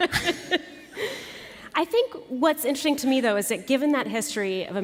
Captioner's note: laughter